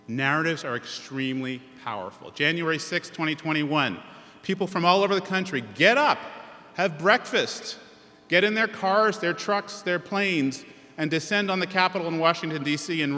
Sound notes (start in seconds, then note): none